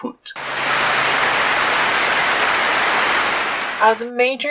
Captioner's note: clapping